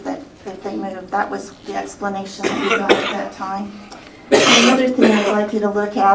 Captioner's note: cough